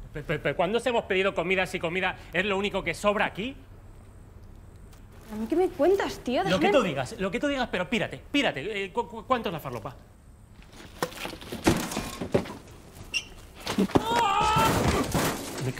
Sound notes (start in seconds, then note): 10.6 package fall; 14.1 shouts